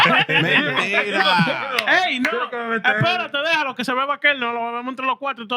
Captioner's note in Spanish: Hablando en idioma extranjero